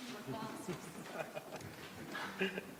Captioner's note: laughs